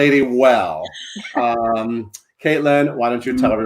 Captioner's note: laugh